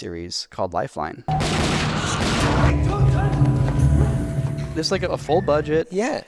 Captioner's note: gunshots blasting